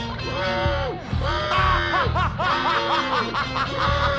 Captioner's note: laughing